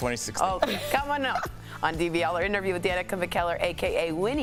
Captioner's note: laughter